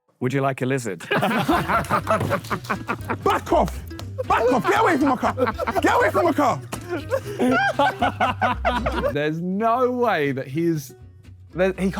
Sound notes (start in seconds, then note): 1.0 Sidemen laugh; 8.0 Sidemen laugh